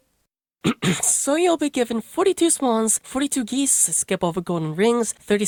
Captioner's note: ahem